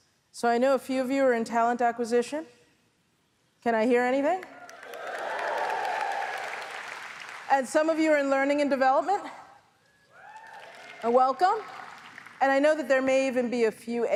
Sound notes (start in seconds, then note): 4.6 audience applauds; 10.2 audience applauds